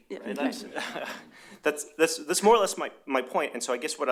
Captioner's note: laughter